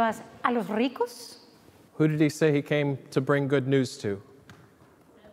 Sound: speaking Spanish

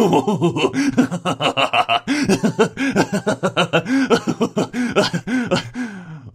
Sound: maniacal laughing

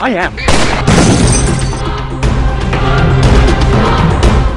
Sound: gun fires

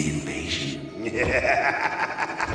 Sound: laughing

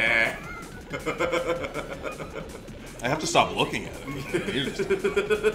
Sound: laugh

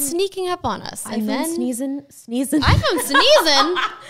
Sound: laughing

